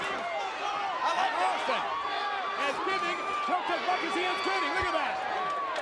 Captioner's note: speaks faintly